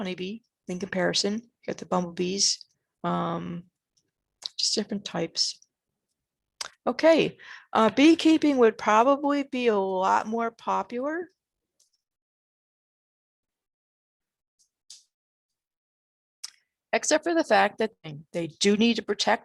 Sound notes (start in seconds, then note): 14.3 dramatic pause